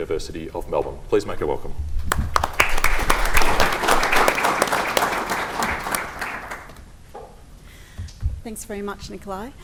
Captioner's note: applause